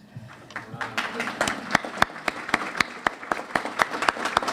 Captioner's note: clapping